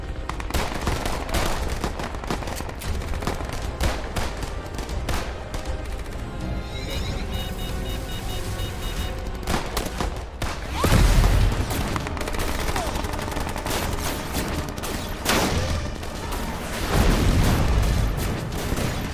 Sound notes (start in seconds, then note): 0.0 guns firing; 6.6 UFO beeping; 10.6 loud blasting; 13.6 lasers blasting; 13.9 heavy gunfire